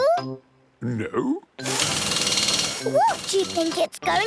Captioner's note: drilling